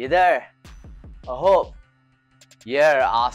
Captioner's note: foreign language